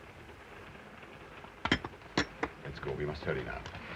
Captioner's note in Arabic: صوت النظارات ينهمر